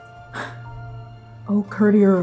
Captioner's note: exhaling